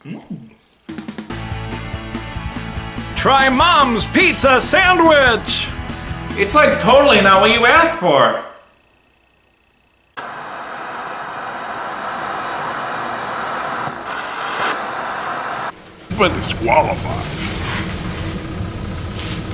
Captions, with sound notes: Mmm! (upbeat music) Try Mom's Pizza Sandwich! It's like totally not what you asked for! (TV Static) You've Been DisQualified!!!